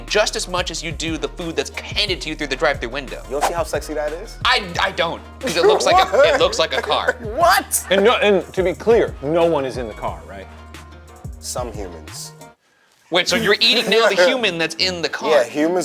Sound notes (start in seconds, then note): 5.4 laughing